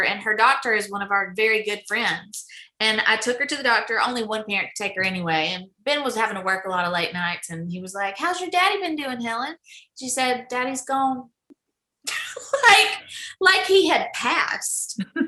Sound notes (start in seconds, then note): 12.1 laughing